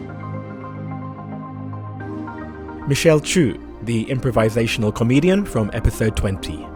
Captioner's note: voiceover